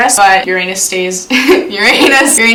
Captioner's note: laughs